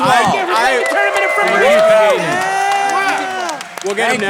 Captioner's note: all cheering and clapping